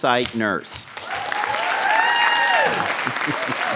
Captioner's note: applause